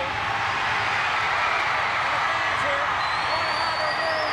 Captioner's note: crowd cheers